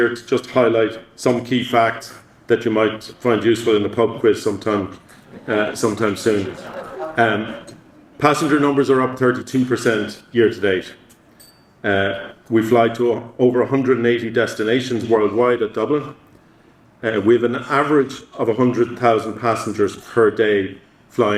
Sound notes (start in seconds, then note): 6.2 audience laughing